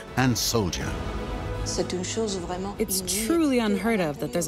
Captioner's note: speaking French